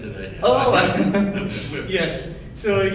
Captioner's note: laughs